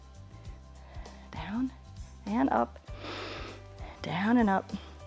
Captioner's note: inhales